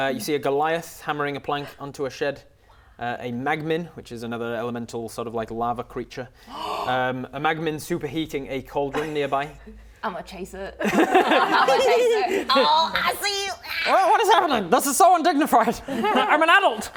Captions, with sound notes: You see a goliath hammering a plank onto a shed Wow A magmin, which is another elemental sort of like lava creature *gasp* A magmin superheating a cauldron nearby Ima chase it Ima chase it - Hehehe Oh, I see you! What is happening? This is so undignified, I'm an adult!